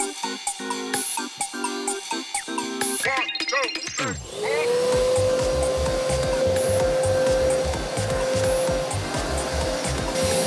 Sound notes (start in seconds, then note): 4.2 vacuuming